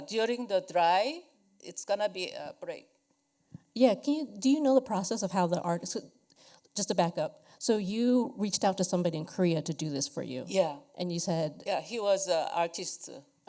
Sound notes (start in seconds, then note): none